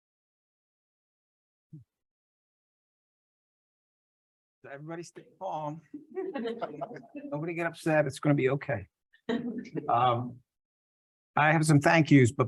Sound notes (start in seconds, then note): 5.9 laughs